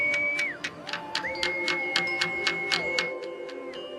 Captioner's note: fluiten